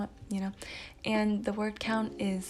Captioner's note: breathes